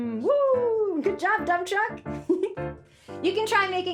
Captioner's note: giggles